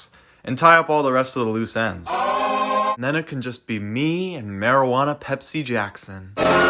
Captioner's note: screams